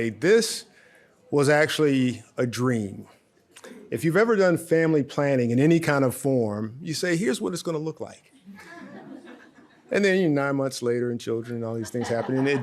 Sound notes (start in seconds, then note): 8.5 audience laughs; 11.7 audience laughs